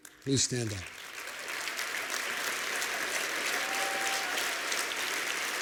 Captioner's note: applause